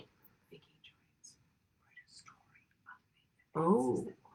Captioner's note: voice whispering off screen